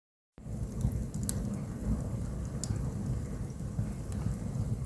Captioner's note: fire crackling